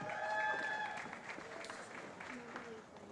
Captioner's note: cheering